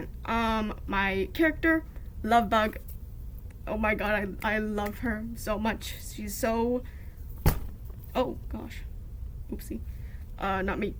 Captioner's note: thump